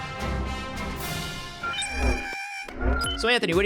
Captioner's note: critter yelling